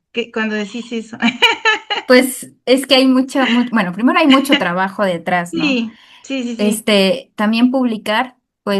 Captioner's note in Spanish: risas